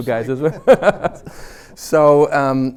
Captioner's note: chuckles